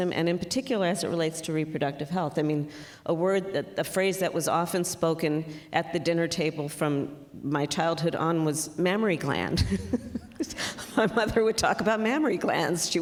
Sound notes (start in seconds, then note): 9.6 laughs